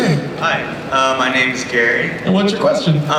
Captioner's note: voiceover